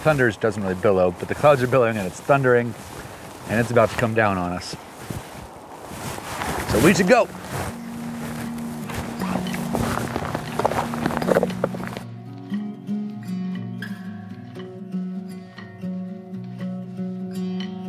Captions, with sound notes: Well, thunder doesn't really billow but the clouds are billowing and it's thundering. And it's about to come down on us. So, we should go! (footsteps) (slow guitar music)